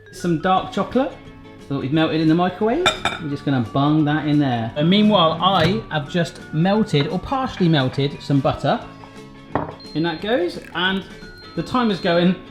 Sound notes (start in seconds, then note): 9.2 beep